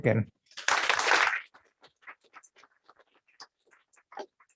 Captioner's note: applause